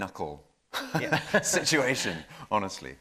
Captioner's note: laughing